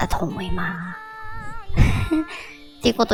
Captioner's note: laugh